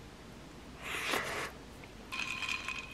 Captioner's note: slurping